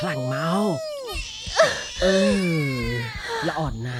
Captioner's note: baby crying